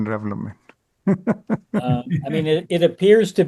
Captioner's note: laughs